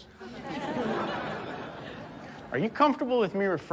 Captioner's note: audience laughs